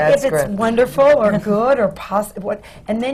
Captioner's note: laughter